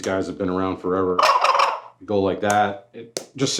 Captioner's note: turkey gobbling